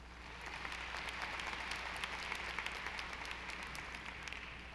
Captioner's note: audience applauding